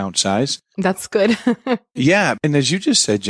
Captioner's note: chuckles